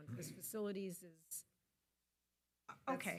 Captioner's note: audio cuts out